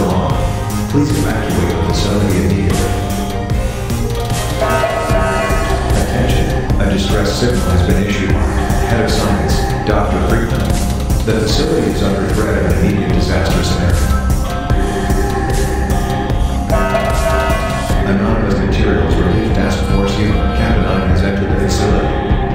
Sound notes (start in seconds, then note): 0.0 announcement Chime; 4.4 announcement Chime; 16.6 announcement Chime